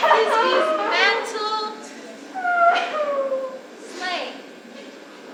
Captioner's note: Pyramus sobbing